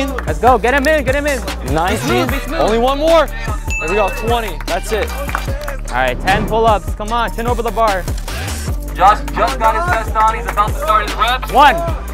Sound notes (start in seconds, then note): 3.9 bell dings